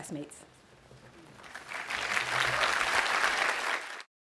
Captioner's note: audience applauds